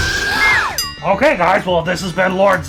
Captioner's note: rat screeches; slide whistle